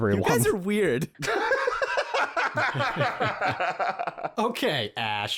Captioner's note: laughter because the one-liners just keep rolling in